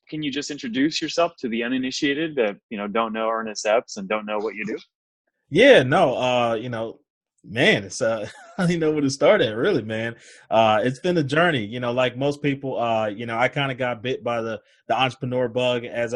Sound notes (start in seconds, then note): 8.2 laughs